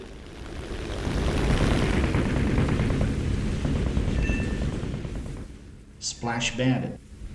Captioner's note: aircraft Engines ,Gunfire, Flying Sounds